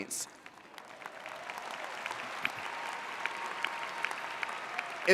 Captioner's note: audience applauding